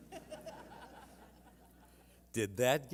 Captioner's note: laughter